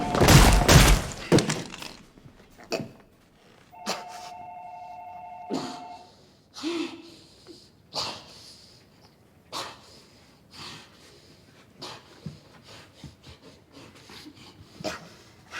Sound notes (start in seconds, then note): 2.5 chokes, spits; 5.5 wheezing